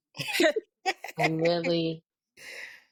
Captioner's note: laughing